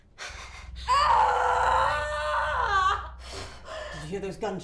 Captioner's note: Belle screaming